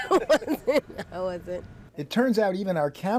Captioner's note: laughter